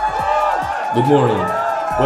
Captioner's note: crowd talking; crowed cheering